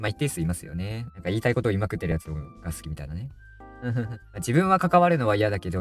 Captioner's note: laughs